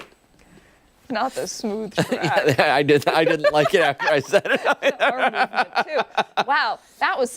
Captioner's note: laughter